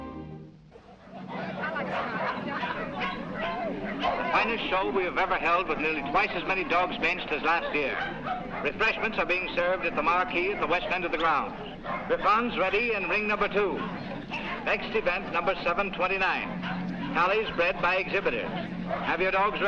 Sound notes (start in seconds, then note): 0.3 people chattering and dogs barking; 4.2 man over P.A